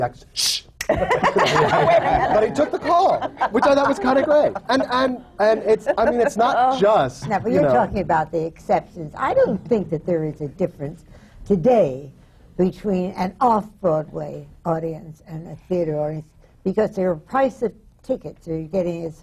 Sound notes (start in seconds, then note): 0.8 laughter